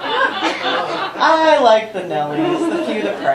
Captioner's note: laughter